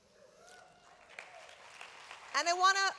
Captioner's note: applause